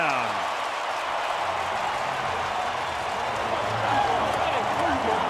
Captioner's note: cheering; onfield chatter